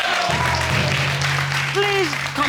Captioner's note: audience applauding